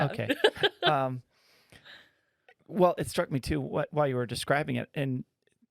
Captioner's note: laughing